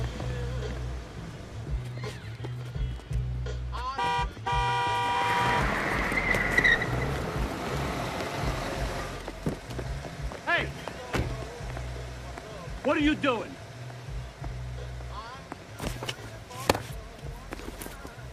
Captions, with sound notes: (horn honking) - Hey! What are you doing?